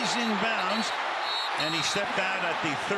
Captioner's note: whistle